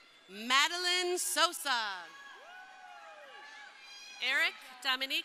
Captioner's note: crowd cheering